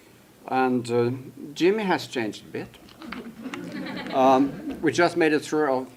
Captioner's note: laughter